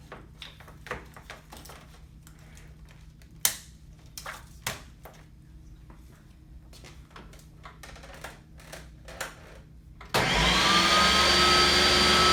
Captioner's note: blender whirs